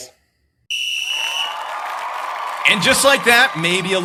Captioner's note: audience Cheering